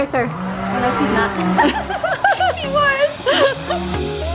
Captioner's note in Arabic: تضحك; موسيقى مبهجة